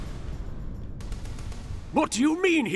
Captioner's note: gunfire